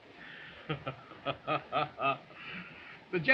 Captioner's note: chuckling